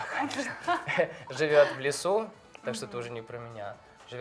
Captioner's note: laughing